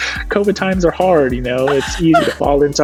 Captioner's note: laughing